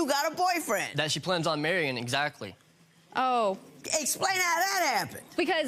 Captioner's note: none